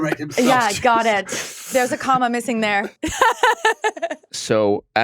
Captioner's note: laughs